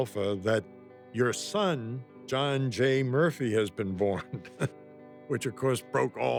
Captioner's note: laughs